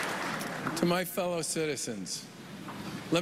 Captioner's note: applause